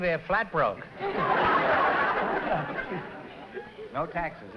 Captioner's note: laughter